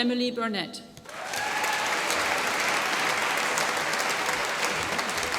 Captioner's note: applause